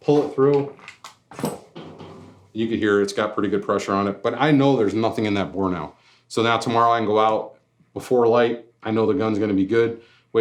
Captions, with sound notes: pull it through. (metal scrapes) You can hear it, its got pretty good pressure on it, but I know there's nothing in that bore now. So now, tomorrow I can go out, before light, I know the gun's gonna be good,